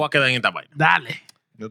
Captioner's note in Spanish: Hablando en idioma extranjero